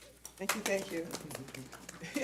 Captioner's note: light applauding